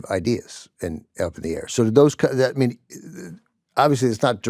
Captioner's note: none